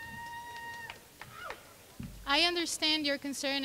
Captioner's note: person screaming